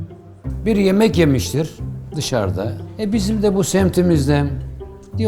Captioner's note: upbeat music; speaking in foreign language